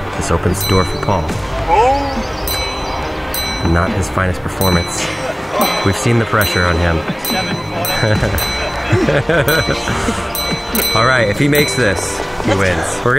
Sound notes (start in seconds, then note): 1.3 bell dings; 2.5 bell dings several times; 7.4 bell dings several times; 8.0 host laughing